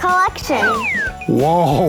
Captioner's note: slide whistle